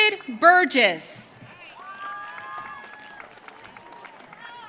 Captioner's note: audience cheering